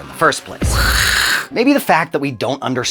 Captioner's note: zombie growling